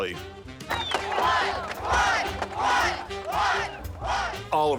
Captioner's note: crowd chanting